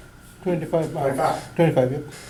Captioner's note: voiceover